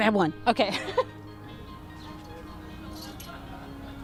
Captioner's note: laughs